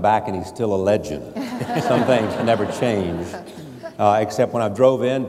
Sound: laughing

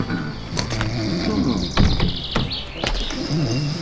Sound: snoring

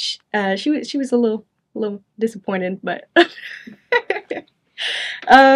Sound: chuckles

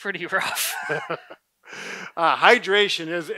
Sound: laughs

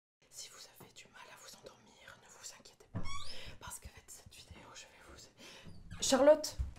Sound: whisper

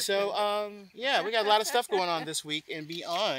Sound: laugh

